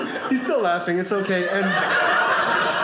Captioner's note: audience laughing